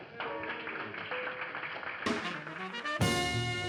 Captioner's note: applause